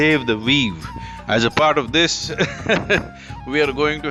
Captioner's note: laughs